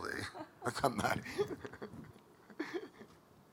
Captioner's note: laughing